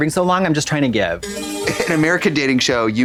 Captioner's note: bright chime